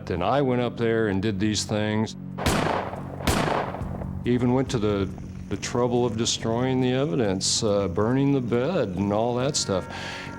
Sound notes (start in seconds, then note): 2.4 gunshots